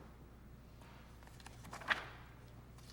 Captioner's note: page turning